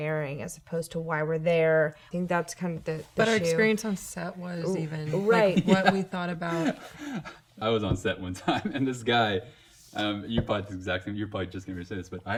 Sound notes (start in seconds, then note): 6.7 laughing